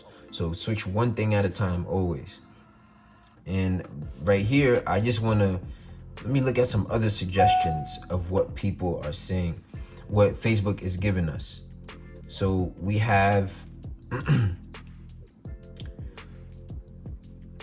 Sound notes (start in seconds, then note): 14.0 clears throat; 14.6 groovy music